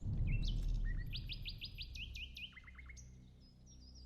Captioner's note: distant explosion; ominous music